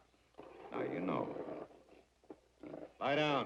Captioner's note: dog growling